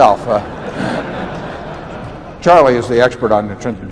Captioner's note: laughter